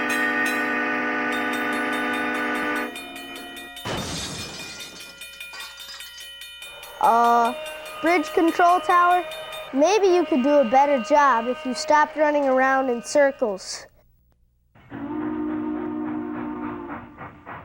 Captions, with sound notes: (horn blowing) (loud crash) Uh, Bridge Control Tower, maybe you could do a better job if you stopped running around in circles. (horn blowing)